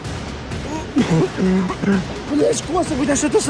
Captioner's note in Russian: Кашляет